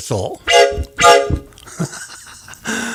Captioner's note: horn toot!